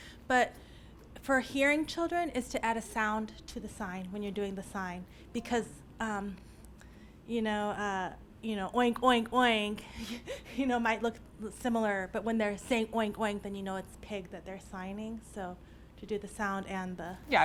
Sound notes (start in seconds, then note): 9.2 chuckles